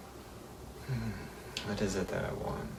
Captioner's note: inhales